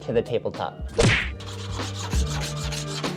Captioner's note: upbeat music continues; impact thumps